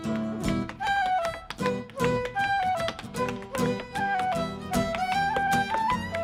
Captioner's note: bright Irish music; shoes rhythmically tapping